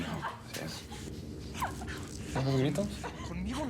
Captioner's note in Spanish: se oye una bofetada y quejidos; sollozos